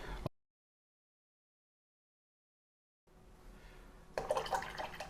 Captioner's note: silence